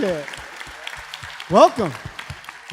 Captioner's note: audience clapping